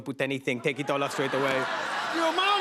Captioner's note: laughter